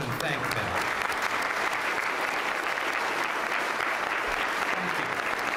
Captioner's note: applause